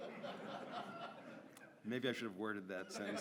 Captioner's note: audience laughs